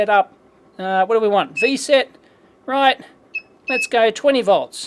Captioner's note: beeps